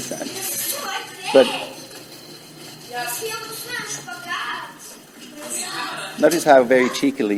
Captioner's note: children speaking in foreign language